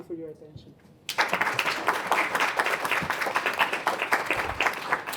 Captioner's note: applause